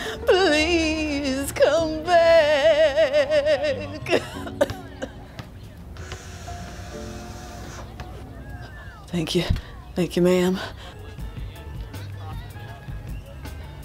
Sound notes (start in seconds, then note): 4.0 coughs